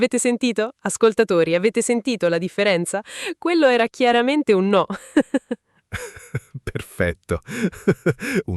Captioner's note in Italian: risate